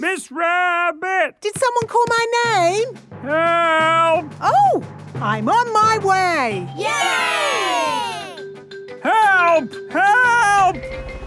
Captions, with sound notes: - Miss Rabbit! - Did someone call my name?! - Help!! - Oh! I'm on my way! - (crowd cheering) Yay!!! - Help! Help!